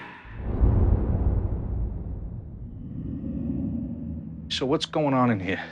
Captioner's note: whomp